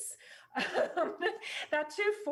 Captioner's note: laughs